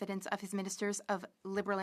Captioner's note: speaking French